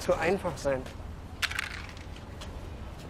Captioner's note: can clatters